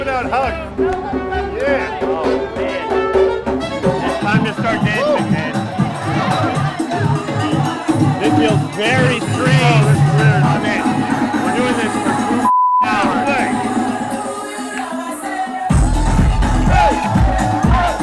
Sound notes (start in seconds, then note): 2.3 dance music; 12.4 beeping tone; 14.1 pulsating music